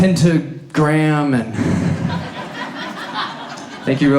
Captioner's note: audience laughs